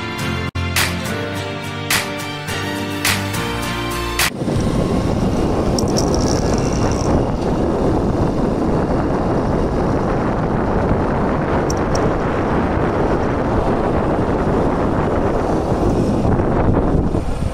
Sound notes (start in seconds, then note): 4.2 bike sound